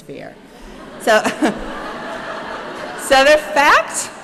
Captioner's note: chuckling